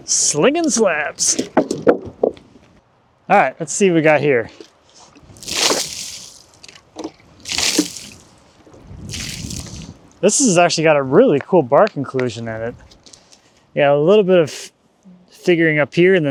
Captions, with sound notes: Slinging slabs. (wood clanging) All right, let's see what we got here. (water splashing) This one's actually got a really cool bark inclusion in it. Yeah, a little bit of figuring up here,